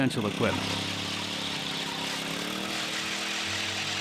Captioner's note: drill whirring